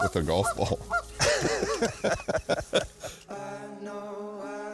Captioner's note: both laughing